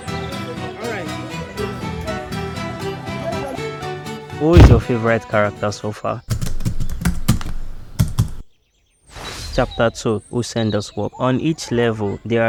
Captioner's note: sighs